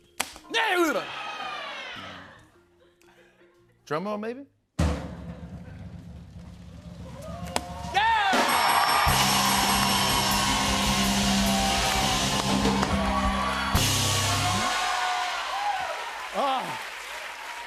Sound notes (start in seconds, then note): 4.6 drum roll; 8.3 dinging; 9.6 cheers and applause